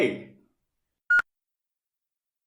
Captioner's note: beep